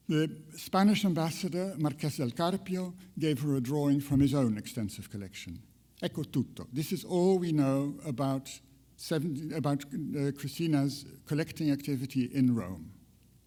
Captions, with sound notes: the Spanish ambassador, Marques del Carpio, gave her a drawing from his own extensive collection. (speaks in foreign language) This is all we know about Christina's collecting activity in Rome.